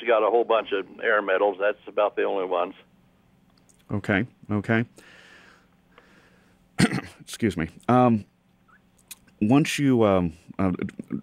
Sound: coughs

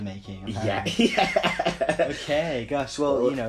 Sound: laughs

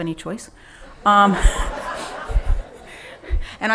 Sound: laughing

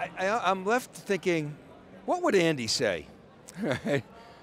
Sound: chuckles

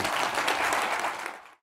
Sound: applause

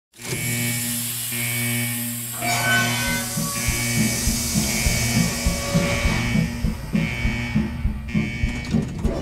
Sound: alarms

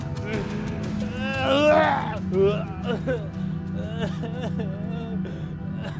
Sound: Will retching and crying

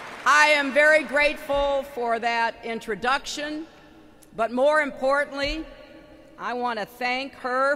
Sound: applause

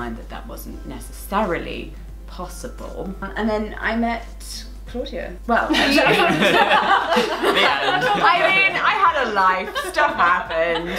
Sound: laughter

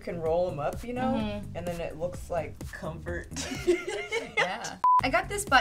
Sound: laughs

